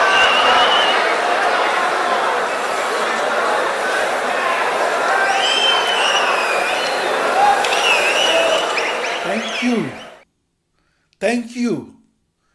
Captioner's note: wild applause and cheering for 22 seconds